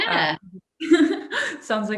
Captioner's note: laughs